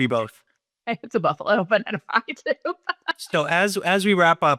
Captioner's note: laughs